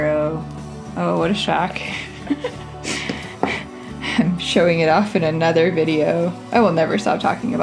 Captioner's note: laugh